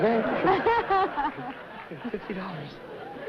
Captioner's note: laughter